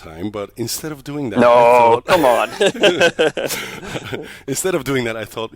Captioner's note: laughs